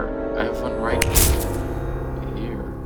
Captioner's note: fire sparks